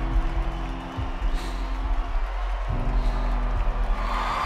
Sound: sighs; audience cheering

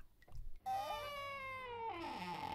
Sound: squeaky door

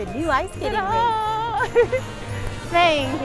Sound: laughs

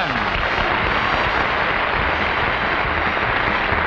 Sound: audience applauds

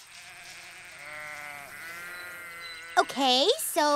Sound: sheep baa

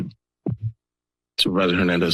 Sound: pause

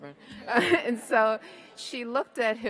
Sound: all laugh

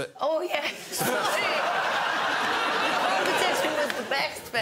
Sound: crowd laughs

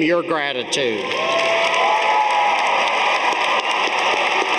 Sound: audience applauding

